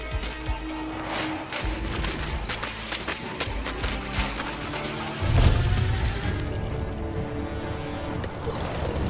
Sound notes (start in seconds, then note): 1.0 Paper ripping sounds